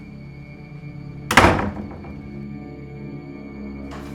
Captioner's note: door slams